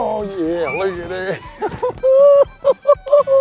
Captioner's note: guy cheers; laughing